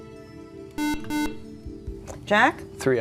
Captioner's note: beeping